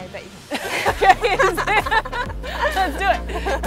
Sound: laughs

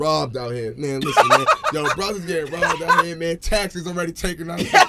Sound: laughing

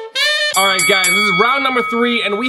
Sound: bell dinging

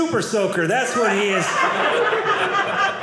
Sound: audience laughing

